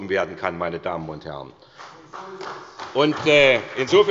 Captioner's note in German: Beifall bei der SPD